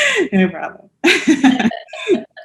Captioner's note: chuckles